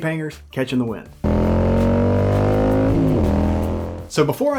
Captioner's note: motorcycle engine